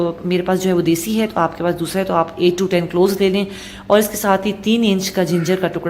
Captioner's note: crushed